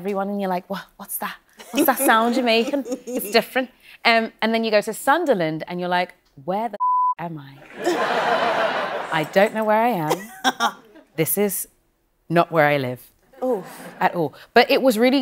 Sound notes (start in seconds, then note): 7.6 laughter